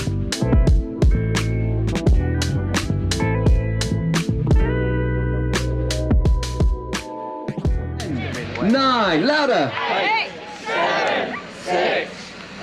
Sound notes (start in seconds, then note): 8.0 crowd